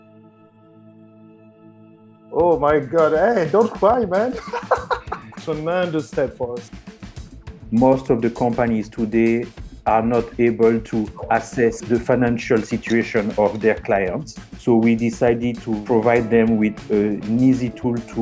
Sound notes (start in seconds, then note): 3.4 laughs